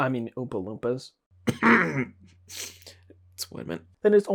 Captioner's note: cough